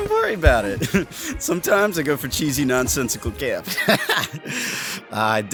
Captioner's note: laughing